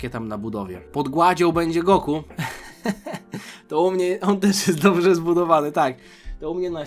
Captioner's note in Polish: śmiech